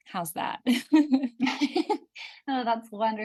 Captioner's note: laughs